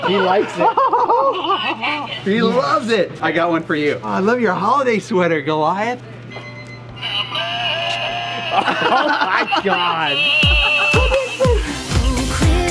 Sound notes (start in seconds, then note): 0.0 Rocky laughs; 6.2 hat beeping; 7.4 second hat sings different Christmas song; 7.8 laughs; 8.3 Rocky laughs